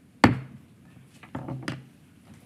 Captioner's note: gavel